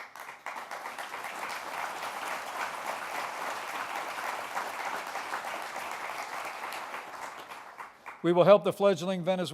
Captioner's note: applause